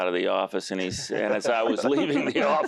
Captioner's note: laughter